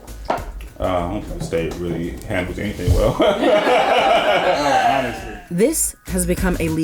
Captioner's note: laughter